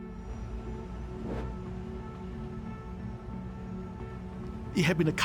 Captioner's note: pensive music; air whooshing